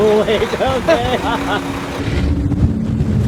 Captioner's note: laughs